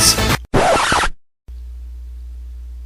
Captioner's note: record Scratch